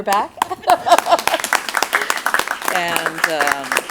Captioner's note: applause